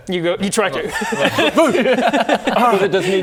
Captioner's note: urgh?